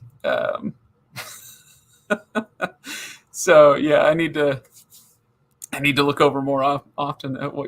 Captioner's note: laughing